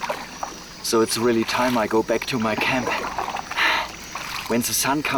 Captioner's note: gasps